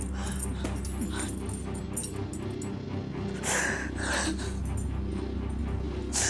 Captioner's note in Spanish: Sollozos